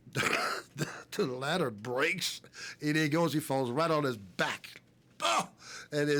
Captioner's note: laugh